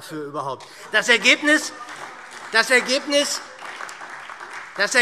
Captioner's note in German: Beifall SPD und DIE LINKE - Zurufe